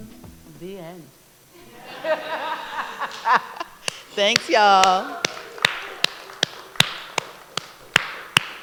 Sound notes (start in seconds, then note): 1.6 laughter; 3.8 applause